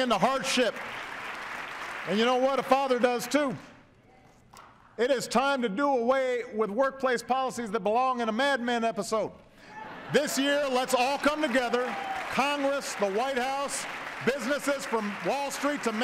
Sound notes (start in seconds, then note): 0.0 applause; 9.7 laughter, cheers, applause